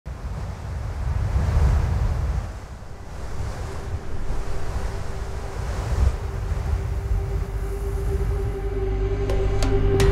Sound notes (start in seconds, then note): 0.5 wind flowing; 6.2 dramatic music